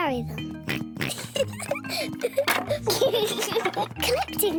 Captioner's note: both giggling